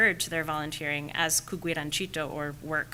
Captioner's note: speaking foreign language